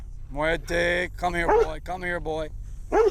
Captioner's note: dog barks